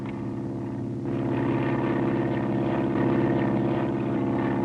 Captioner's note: airplane flying